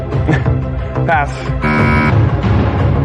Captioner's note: buzzer sounds